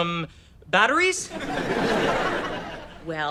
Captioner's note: audience laughter